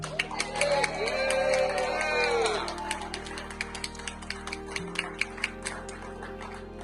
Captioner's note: crowd applauding; crowd cheering